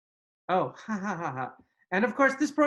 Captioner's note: giggles